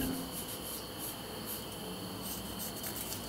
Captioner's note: soft whirring